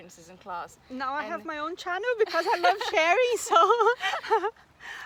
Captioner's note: risos